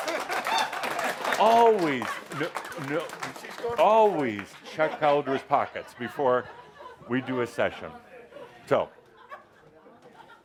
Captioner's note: audience applause